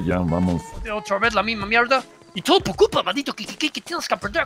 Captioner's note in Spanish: acento inglés